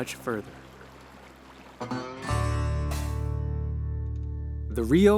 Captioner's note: water burbling; lively music